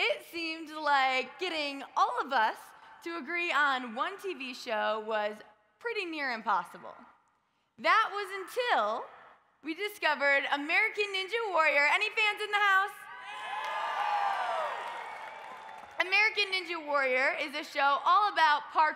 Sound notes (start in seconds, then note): 13.2 audience cheers